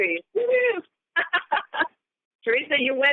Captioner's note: laughter